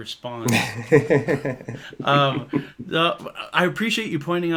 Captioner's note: laughs